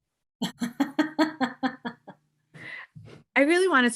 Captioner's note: chuckling